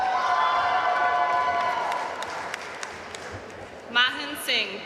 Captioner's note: audience cheering and applauding